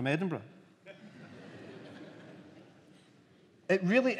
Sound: laughter

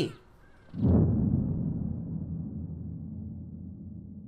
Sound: boom

